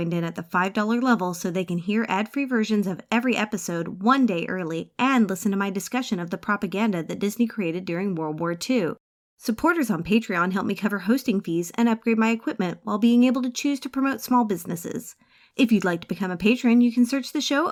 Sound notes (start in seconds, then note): none